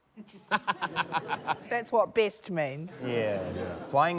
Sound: laughs

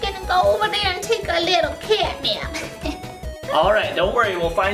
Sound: chuckles

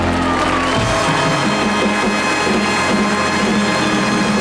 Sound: audience applauding

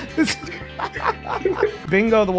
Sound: laughs

